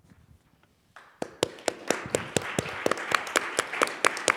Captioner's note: applause